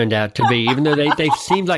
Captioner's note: laughs